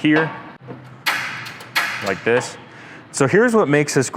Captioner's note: igniters clack